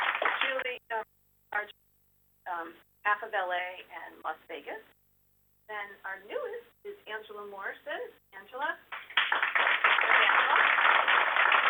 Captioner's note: applause